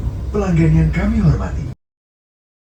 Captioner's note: train announcement